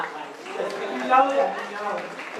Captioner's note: applause